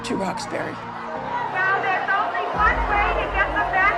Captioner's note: crowd shouting in background